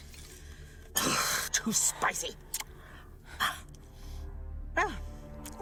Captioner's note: huffs